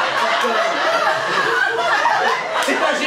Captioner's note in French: rires public